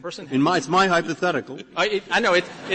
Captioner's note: laughter